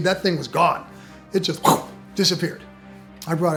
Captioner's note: whooshes